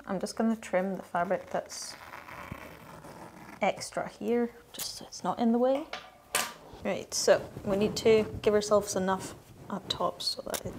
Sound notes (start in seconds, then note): none